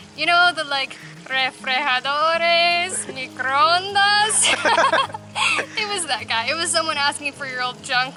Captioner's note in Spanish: Risas